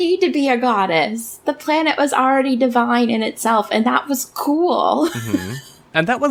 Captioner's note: laughs